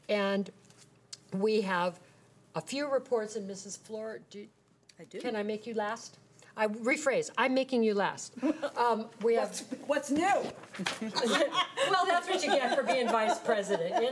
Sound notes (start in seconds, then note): 10.8 laughing